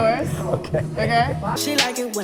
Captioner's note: laughs